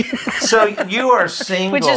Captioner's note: laughs